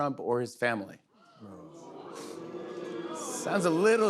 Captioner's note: audience groans